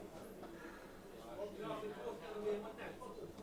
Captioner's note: chatter around the room